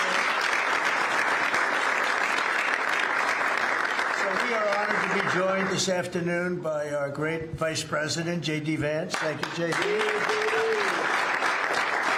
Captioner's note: applause